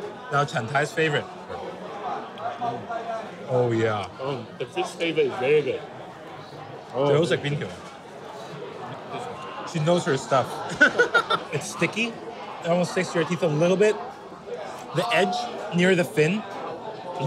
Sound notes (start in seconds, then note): 6.9 speaks in foreign language; 10.6 laughs